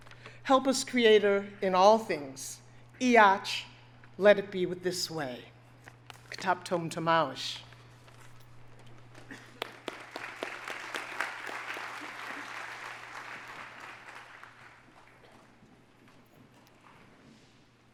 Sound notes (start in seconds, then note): 3.0 speaks in foreign language; 9.2 audience applauding